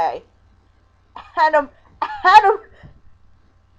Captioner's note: laughing